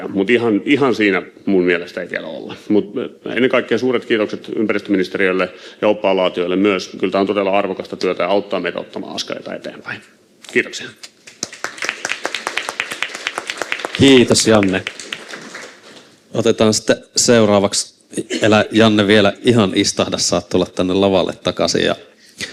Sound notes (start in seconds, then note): 11.2 Aplodeja